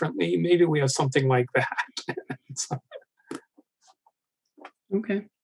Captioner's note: laughing